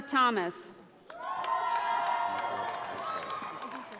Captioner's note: audience applauding